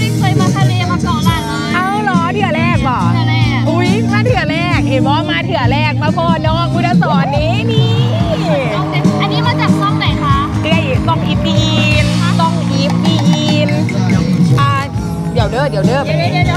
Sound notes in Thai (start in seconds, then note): 2.9 ปรบมือ; 2.9 เสียงหัวเราะ